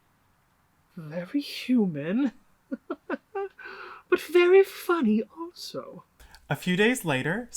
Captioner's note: laughs